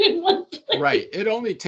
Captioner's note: laughing